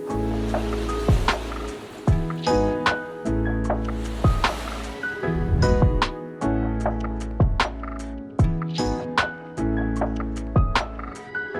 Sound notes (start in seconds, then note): 0.0 subtle groovy music; 0.2 graphic whooshes; 1.4 subtle groovy music; 3.6 graphic whooshes; 5.3 subtle groovy music